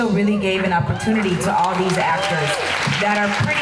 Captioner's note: crowd applause